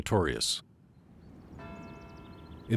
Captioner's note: bell tolling